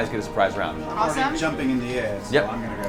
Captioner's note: none